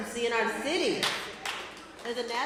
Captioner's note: applause